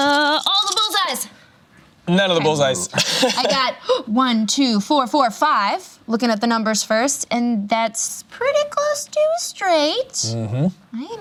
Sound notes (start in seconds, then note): 2.7 laughs